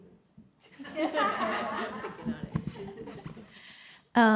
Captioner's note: audience laughs